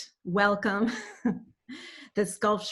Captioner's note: chuckles